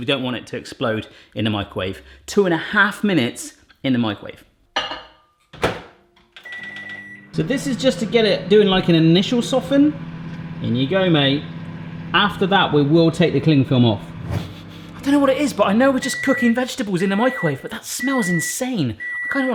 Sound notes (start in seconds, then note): 5.6 microwave door slamming; 6.4 beeping; 14.2 whooshing